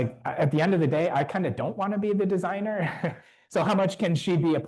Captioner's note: chuckles